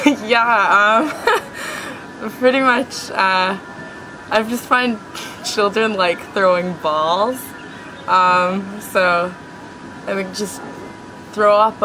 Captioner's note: laughing